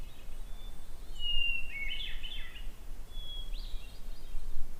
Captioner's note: bird song